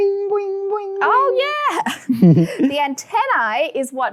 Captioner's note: both laughs